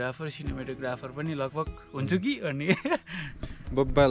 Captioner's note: chuckles